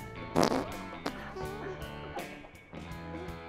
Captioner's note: farts